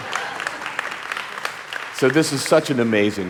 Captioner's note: audience applauding